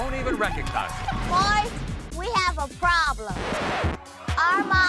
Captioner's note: record scratch